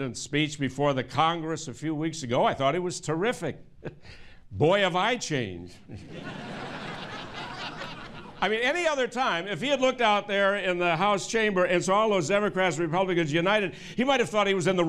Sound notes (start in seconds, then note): 8.2 laughter